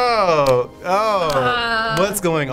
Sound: anxious moan

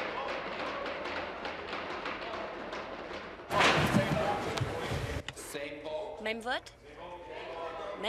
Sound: tapping desks

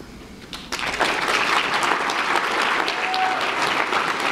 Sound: applause

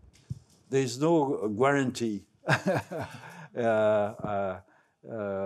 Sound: laughs

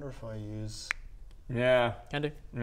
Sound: finger snap

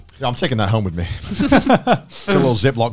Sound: laughing

